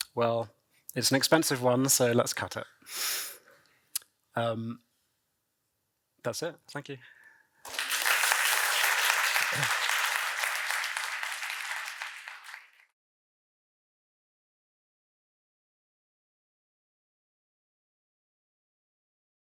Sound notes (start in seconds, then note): 7.6 applause